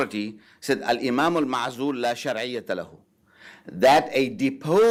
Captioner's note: speaking Arabic